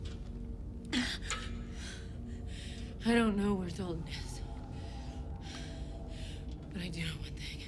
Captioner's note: pants